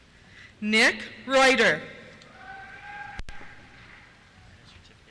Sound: cheers

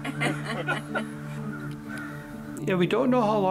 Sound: general laughter

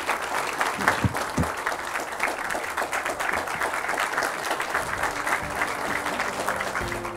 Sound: applause

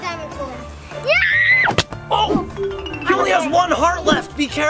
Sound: screams

